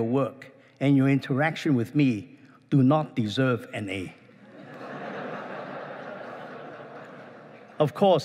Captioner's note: laughing